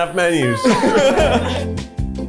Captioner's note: upbeat music; chuckling